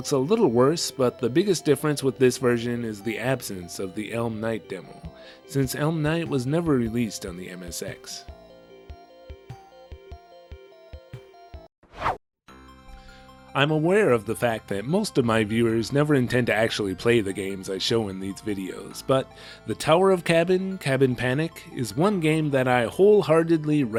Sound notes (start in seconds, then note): 11.9 whoosh